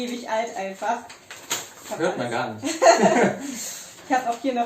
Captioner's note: laughs